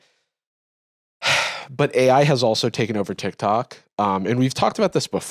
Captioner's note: sighs